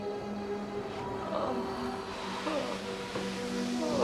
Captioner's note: groaning